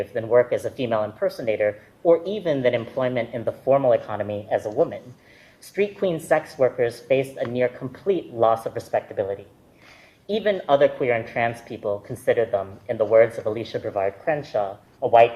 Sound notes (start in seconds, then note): none